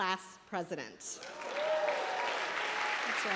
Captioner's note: applause